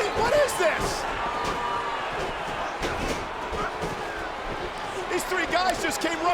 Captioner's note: applause